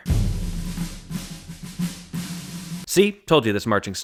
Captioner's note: bang